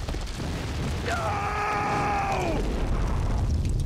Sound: shouting

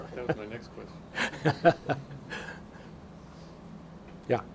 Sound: laughing

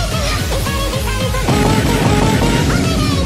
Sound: 6 times BOOM

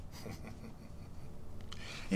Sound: chuckles

